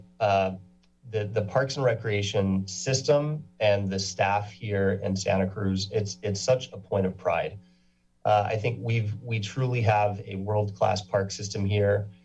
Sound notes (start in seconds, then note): none